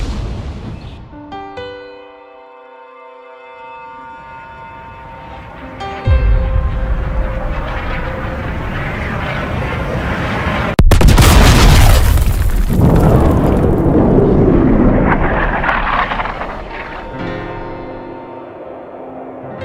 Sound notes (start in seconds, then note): 0.0 impact; 7.8 meteor noise; 10.9 boooom!; 16.7 wind whistling